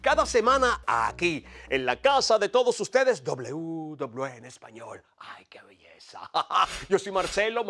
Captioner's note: laugh